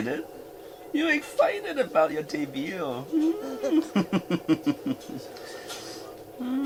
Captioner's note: laughing